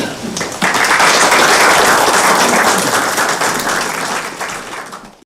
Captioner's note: applause